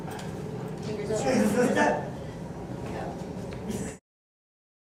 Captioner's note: background Chatter